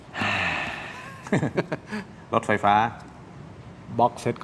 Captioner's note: sigh